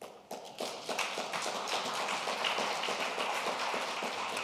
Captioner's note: audience applauding